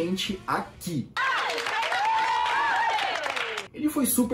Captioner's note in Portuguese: som de aplauso